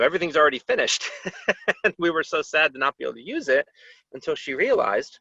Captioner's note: laughter